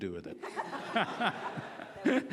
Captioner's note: laughing